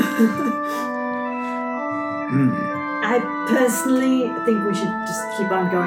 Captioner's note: whimpers